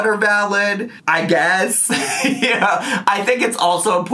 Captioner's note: laughs